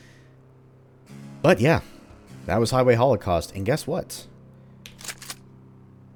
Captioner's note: shick-shick